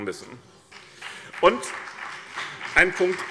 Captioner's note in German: Beifall BÜNDNIS 90/DIE GRÜNEN